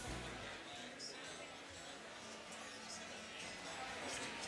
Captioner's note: crowd murmuring